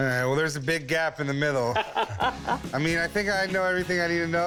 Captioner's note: laughs